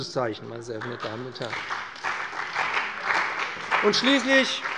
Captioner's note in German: Beifall bei dem BÜNDNIS 90/DIE GRÜNEN und der CDU